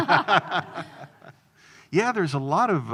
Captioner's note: both laughing